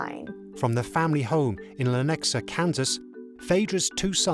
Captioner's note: voiceover